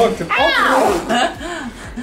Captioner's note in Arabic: ضحك